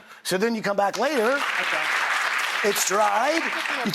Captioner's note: applauding